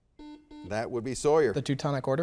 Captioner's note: soft beeping